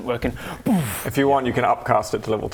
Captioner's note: boof